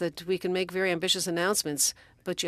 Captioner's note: speaking French